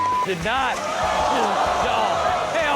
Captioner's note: beep; audience gasps